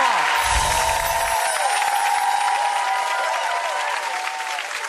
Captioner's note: audience cheers